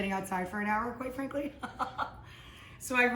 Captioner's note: laughs